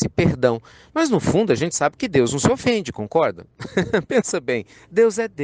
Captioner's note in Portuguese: Risos